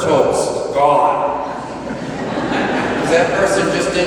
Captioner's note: laughter